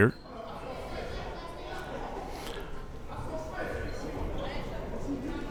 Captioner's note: crowd members talking